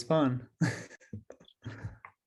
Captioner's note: laughs